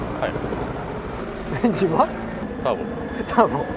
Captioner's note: laughs